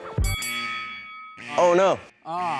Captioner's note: speaking faintly; bell rings